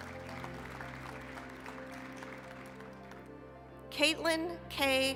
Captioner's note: applause